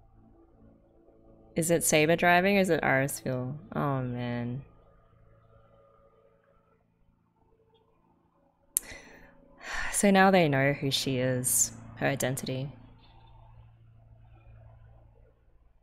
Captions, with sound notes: Is it Saber driving? Or is it Irisviel? Oh man. [sighs] So now they know who she is. Her identity.